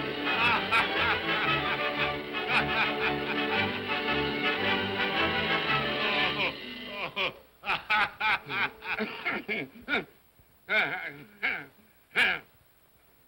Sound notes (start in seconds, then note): 0.0 whimsical music; 0.2 spirit laughs; 6.8 spirit laughs; 8.7 Scrooge grunts